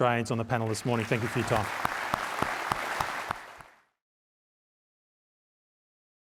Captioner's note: audience clapping